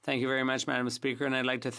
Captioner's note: speaking French